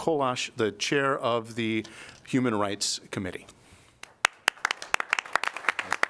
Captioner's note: applause